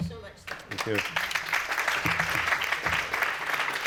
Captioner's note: applause